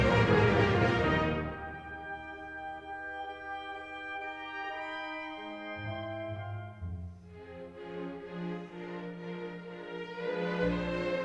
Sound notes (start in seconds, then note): none